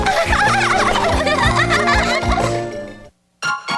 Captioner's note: laughing; upbeat music